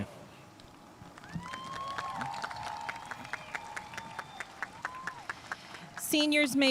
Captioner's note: audience cheering and applauding